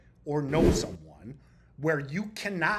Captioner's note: text whooshing